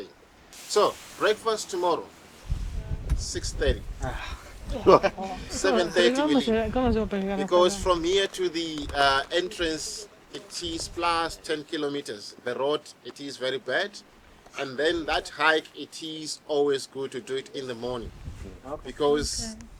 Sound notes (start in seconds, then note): 4.0 deep sigh